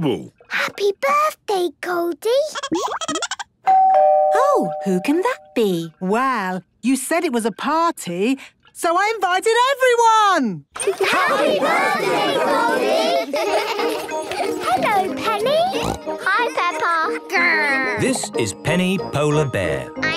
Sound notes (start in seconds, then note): 2.7 Goldie giggling; 3.6 doorbell ringing; 13.1 laughter; 15.6 snorting